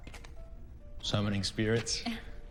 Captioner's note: Riley chuckles